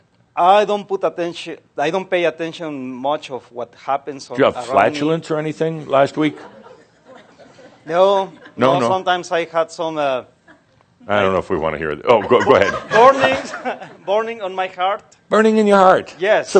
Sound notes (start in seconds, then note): 6.5 some chuckles; 12.1 more chuckles